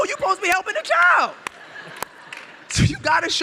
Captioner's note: audience laughs